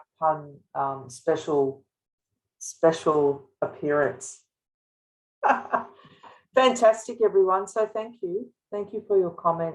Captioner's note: laughing